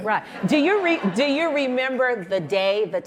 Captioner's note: audience laughing